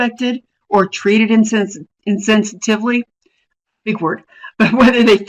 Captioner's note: chuckles